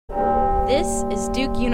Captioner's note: bell tolls